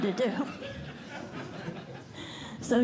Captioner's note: laughter